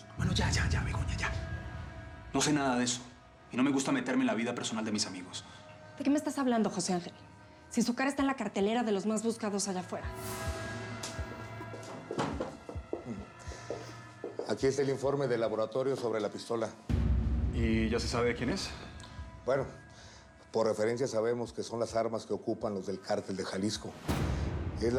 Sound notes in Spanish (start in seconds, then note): 12.1 toques en la puerta